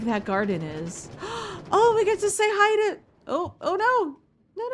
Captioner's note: gasp